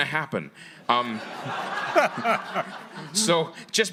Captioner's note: audience laughing